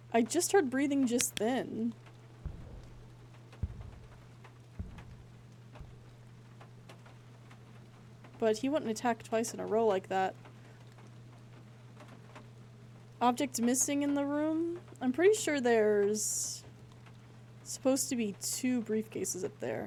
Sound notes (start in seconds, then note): 2.4 four Heavy Footsteps